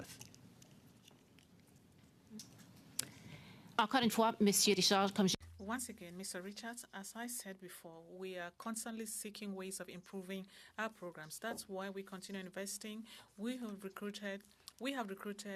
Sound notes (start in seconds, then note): 10.5 speaking French